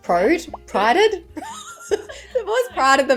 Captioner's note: producer laughs